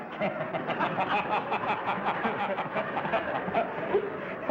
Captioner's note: laughter